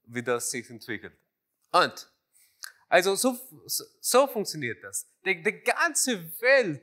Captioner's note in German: none